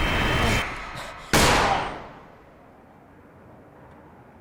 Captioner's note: gun firing